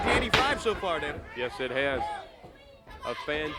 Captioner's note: crowd chatter